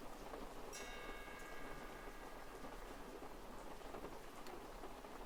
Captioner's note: faintly audible sound of pendulum clock